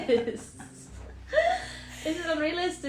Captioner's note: laughter